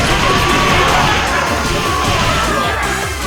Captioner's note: a metric ton of loud yelling; loud Yelling